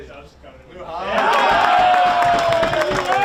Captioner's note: players cheering